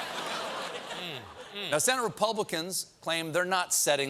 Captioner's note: laughter